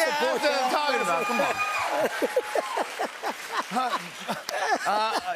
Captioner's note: laughing